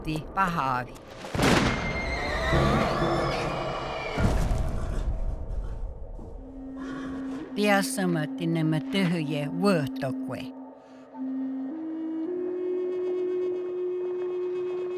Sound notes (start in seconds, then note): 1.3 loud gunshot; 1.8 horse whinnying; 7.4 in Native language